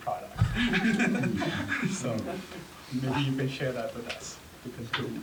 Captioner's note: laugh